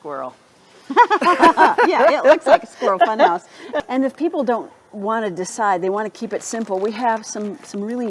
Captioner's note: laughter